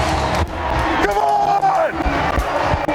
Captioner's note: crowd